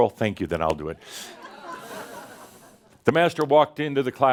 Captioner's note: some chuckles